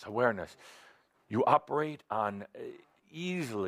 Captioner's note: none